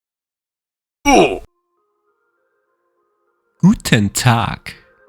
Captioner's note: character grunting